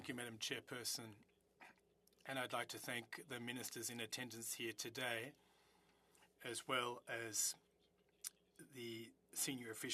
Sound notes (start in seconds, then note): 4.7 speaking French